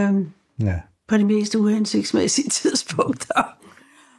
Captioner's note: chuckles